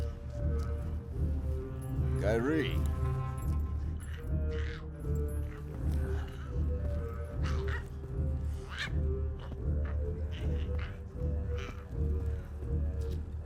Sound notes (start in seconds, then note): 4.0 Giree squawking; 4.1 tense pensive music